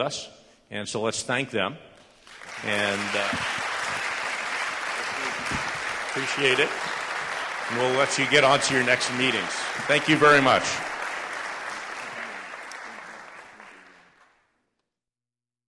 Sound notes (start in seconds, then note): 2.4 applause